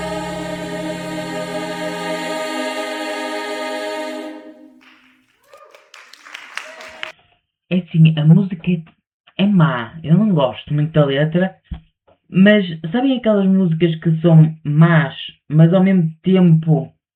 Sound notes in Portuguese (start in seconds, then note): 4.8 aplausos